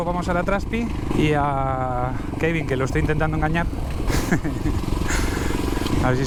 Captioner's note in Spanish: risas